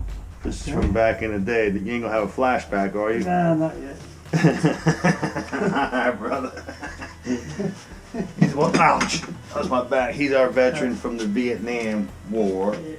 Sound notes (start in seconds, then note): 4.2 laughs